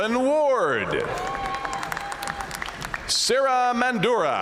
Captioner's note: audience cheering and applauding